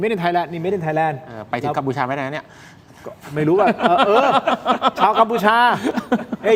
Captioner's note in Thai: เสียงหัวเราะ